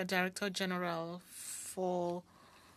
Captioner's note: speaking French